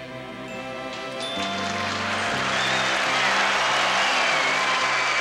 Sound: crowd applauding

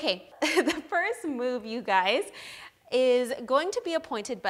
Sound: laughs

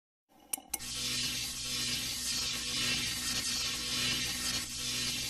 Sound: electricity zapping

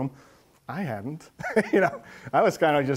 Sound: laughs

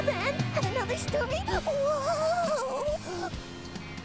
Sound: shivering; chuckling

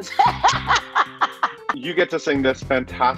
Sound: laughs

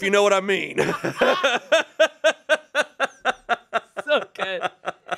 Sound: everyone laughs

